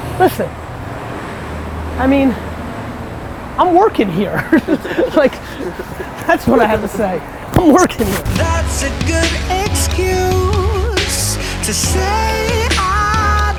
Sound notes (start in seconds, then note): 4.1 laughs